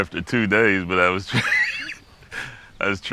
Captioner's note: laughs